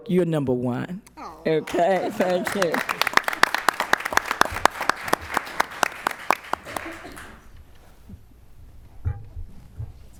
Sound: applause

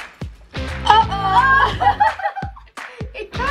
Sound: both laughing

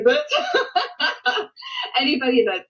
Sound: laughs

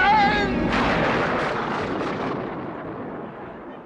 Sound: thunder crashes

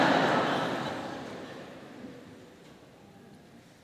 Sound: laugh

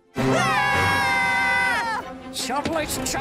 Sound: all screaming

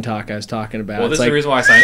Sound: whistle

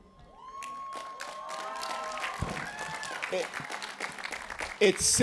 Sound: cheering

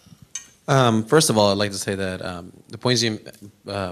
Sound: voiceover

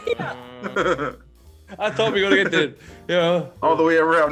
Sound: laugh

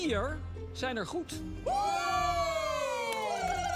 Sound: cheering

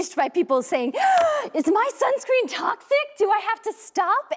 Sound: gasps

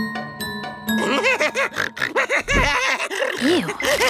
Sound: laughing and snorting

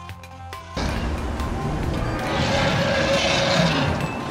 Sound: dinosaur growls

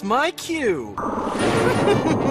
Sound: ultra-slowed down noise begins; laughs

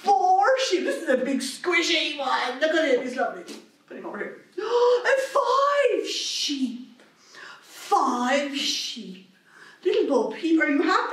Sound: gasp

